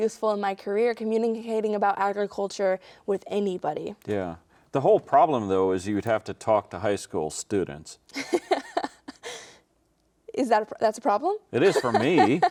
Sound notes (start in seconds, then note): 8.1 laughing